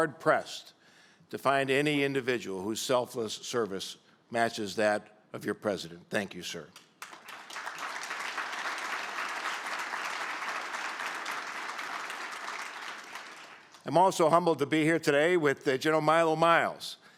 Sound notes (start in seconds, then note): 6.7 applause